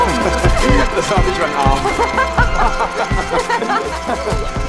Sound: both laughing

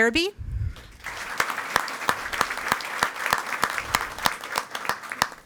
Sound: audience applauding

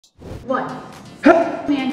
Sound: air whooshes

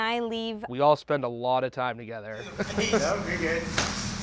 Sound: laughs

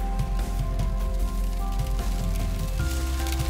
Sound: rain patters

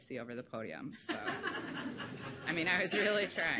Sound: laughing

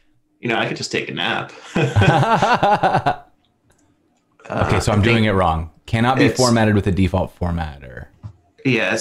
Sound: laughter

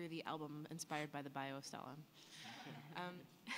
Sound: laughter

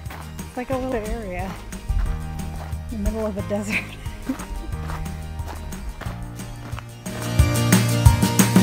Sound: laughing; upbeat music

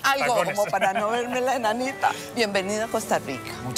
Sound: laughs

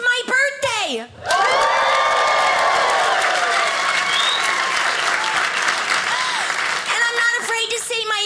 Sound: audience cheers

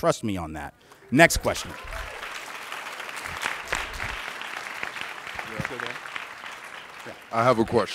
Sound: clapping

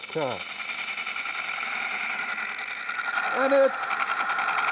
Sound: wood lathe chattering

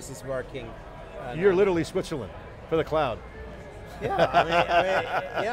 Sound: laughs

